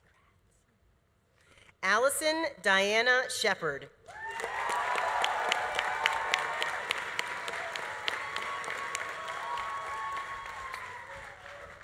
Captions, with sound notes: Congrats. Allison Diana Shepherd. (audience applauding) (audience cheering)